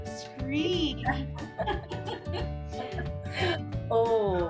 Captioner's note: both laugh